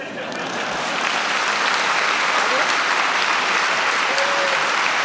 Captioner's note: audience applauding